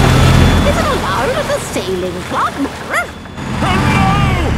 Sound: barks

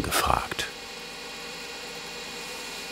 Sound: machine whirring

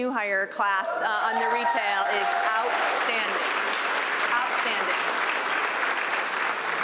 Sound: applause

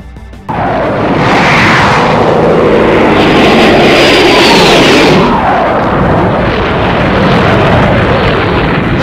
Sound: fighter aircraft launching

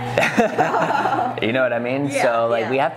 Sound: laughing

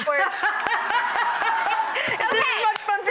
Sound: laughter

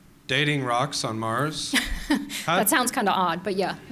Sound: laughs

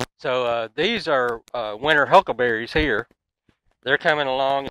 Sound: none

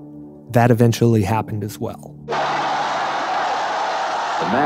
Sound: crowd yelling

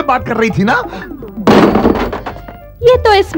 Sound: telephone receiver rattles

